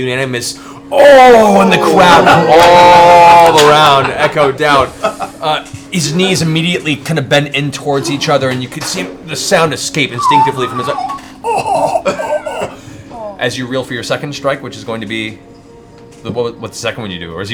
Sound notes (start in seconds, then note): 0.1 groans; 10.2 wheezes